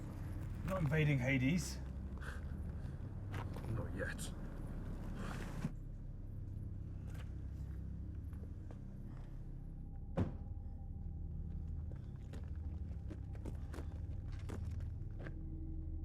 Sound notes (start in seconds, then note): 6.6 soft tense music; 10.2 car trunk thudding